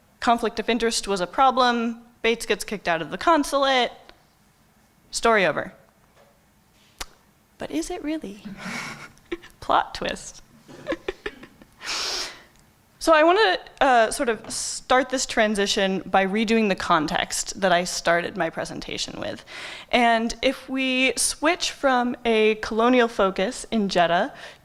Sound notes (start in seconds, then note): 10.7 chuckling